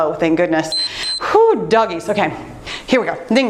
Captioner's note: timer beeps